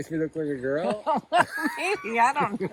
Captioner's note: laughing